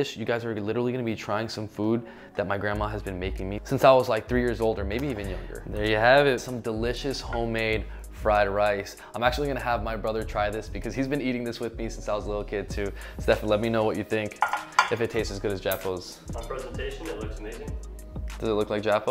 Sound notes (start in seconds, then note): 16.1 speaking in foreign language; 18.2 upbeat electronic music